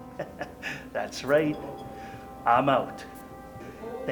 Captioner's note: suspenseful music continues; laughing